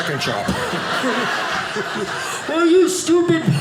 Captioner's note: audience laughing